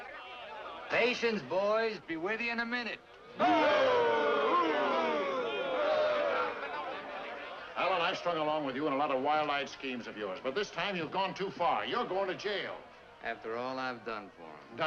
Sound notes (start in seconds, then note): 3.4 men boo & heckle